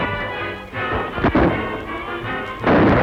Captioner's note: gunshot